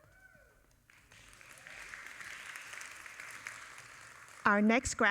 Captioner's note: audience applauding